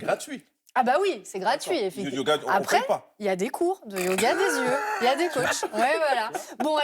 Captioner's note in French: rires